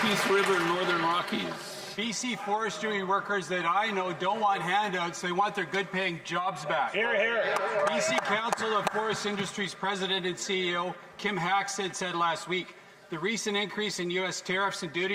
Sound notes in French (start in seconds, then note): 3.0 voix de l'interprète